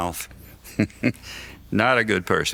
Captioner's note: laughs